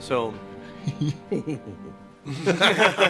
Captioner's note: chuckles